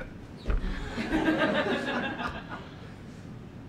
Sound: audience laughing

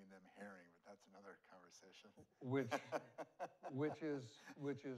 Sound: laughs

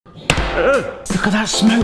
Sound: hammer pounds; groans

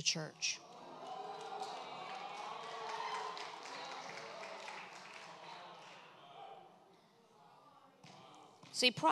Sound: congregation cheers

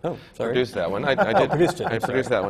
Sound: laughter

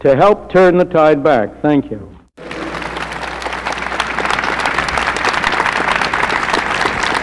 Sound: applause

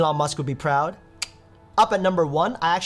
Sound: mouth clicks

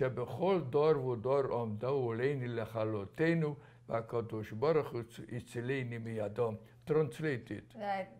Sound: speaking hebrew

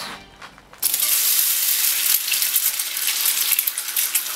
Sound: sizzling

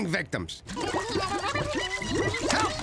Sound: spluttering

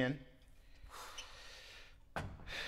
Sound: sighs

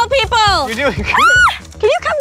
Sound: screams

